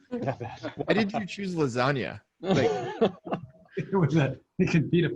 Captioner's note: laughing